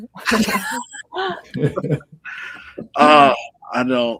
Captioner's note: laughing